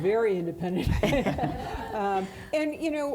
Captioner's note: laughs; audience laughing